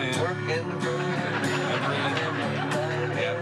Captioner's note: laughter